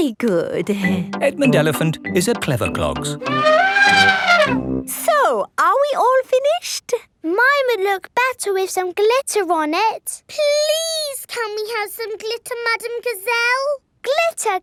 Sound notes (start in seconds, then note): 3.2 trumpeting